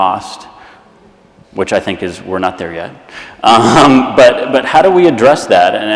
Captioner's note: laughs